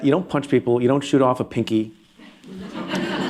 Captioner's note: laughter